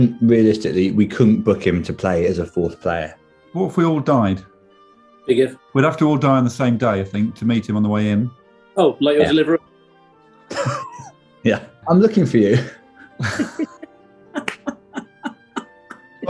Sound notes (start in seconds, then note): 10.5 sniggering; 13.0 laughter